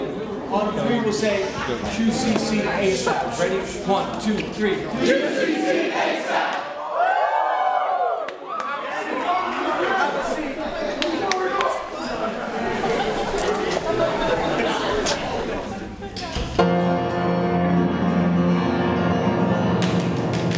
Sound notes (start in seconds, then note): 6.2 cheering; 16.6 dramatic piano music